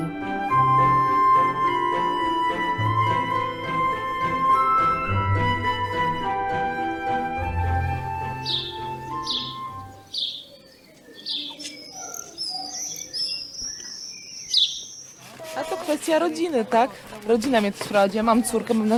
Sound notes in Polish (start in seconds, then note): 0.0 muzyka instrumentalna; 8.1 odgłosy ptaków